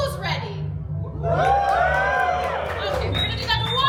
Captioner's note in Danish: publikum huver og klapper